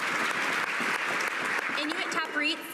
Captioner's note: cheers and applause